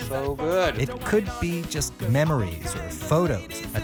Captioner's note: voiceover